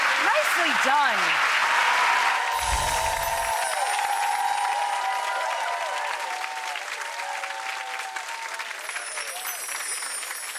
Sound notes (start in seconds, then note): 1.7 clapping loudly